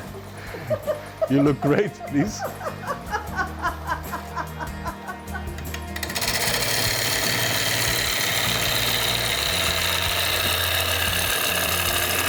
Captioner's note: laughter